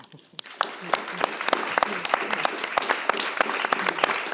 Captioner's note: audience clapping